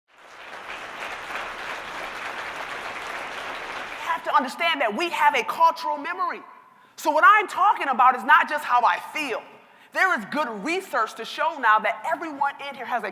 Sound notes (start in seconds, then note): 0.0 applause